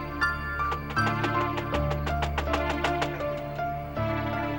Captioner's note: franticly knocking door